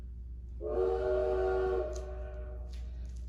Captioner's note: train whistle